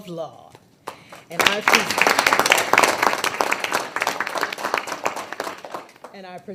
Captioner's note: people applaud